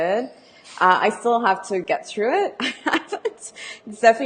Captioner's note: laughs